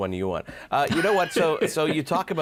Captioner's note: laughs